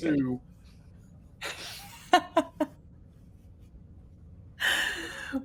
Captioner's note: narrator laughing